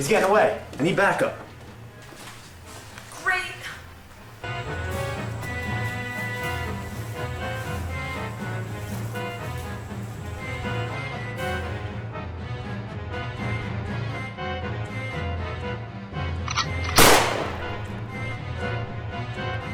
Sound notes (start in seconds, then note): 16.8 gunshot